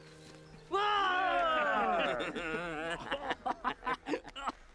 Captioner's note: men yell